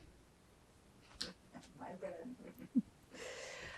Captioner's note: laughing